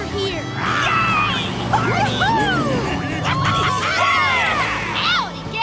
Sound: cheering

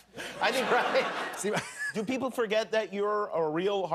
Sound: laughter

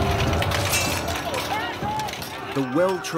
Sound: weapons clanking

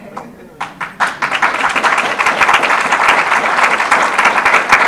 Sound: audience applause

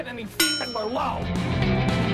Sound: bell ding

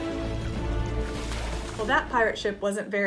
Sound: water sloshes

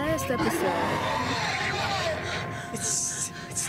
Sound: also screamin in an unchristian way

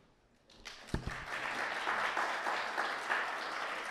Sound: audience clapping

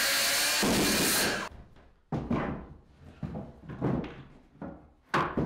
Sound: wood banging loudly

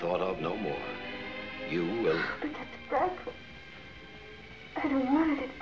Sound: sighs

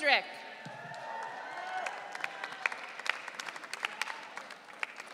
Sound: audience cheering

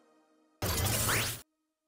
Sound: Glitch

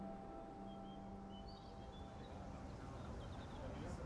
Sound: birds chirping

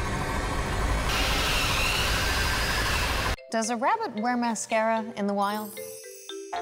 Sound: animal Screaming

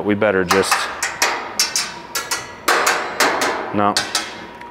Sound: metal clanging repeatedly

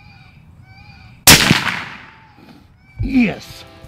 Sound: gun shot

